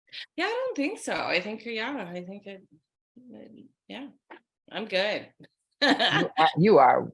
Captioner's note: laughing